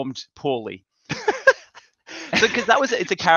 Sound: both laughing

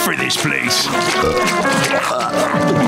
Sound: burping

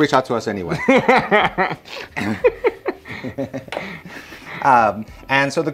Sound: laughing

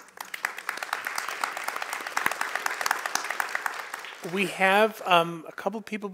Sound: applause

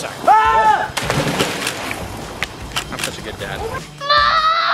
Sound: screaming

